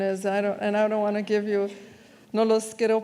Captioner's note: speaks in foreign language